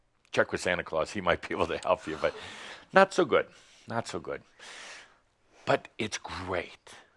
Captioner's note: chuckling